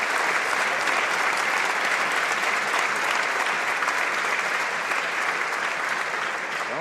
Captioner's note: applause